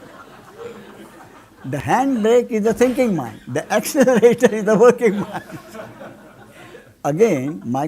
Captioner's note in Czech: smích